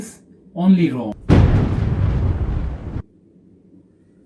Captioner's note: thunder sounds